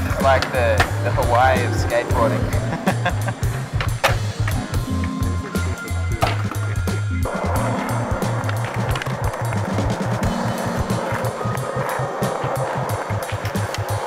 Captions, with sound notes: - I like that the way of skateboarding. (laughs) - Everything's perfect here. (skateboard roars)